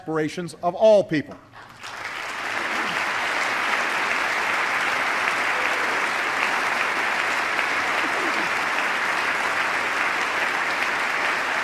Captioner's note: applause